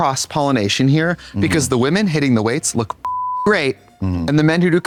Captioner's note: beep